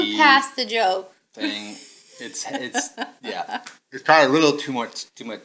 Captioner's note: chuckling